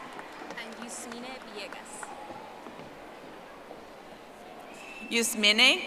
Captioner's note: audience applauding